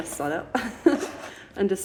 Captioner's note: laughing